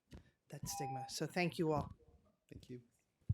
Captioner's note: tone